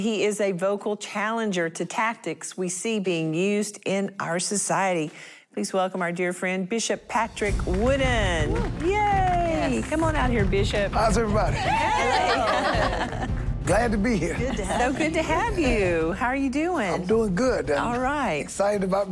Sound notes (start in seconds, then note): 12.0 clapping